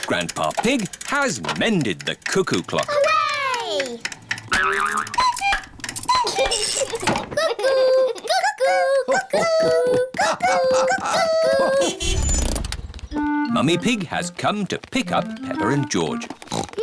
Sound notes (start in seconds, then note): 5.5 clock chimes; 6.0 laughs; 13.1 horn honks